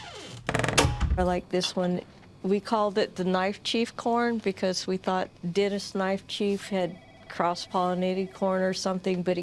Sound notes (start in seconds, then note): 0.0 door creaks open and close